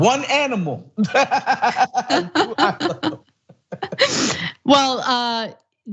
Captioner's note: laugh